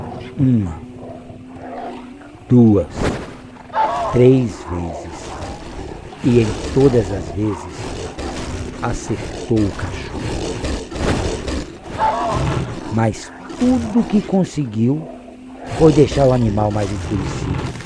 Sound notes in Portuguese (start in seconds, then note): 2.4 Vento rápido; 3.7 Urro de dor; 10.6 Vento rápido; 11.9 Urro de dor; 15.5 Rosnado intensifica